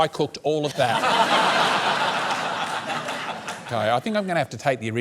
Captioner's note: laughter